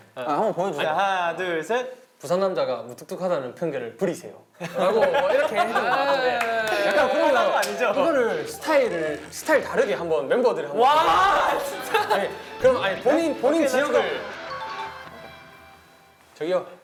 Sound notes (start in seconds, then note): 5.5 in Busan dialect